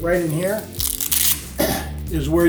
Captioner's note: velcro crackles; clears throat